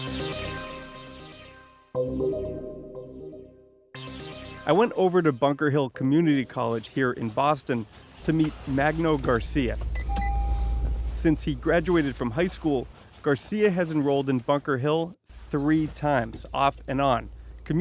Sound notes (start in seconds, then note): 0.3 intense ambient music; 10.0 machine beeping